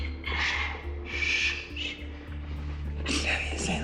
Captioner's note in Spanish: Exclamaciones